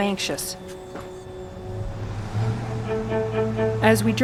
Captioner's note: sound of car